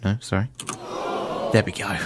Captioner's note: groaning